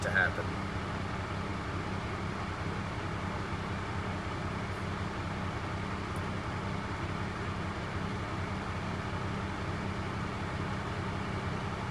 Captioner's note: engine idling